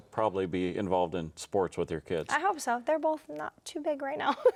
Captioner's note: chuckles